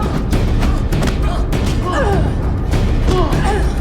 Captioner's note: both grunting